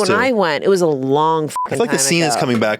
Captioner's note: beep